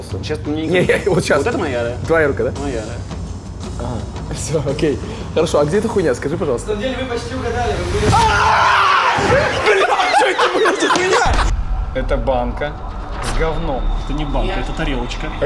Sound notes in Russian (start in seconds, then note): 8.0 крик